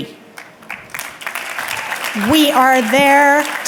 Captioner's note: audience clapping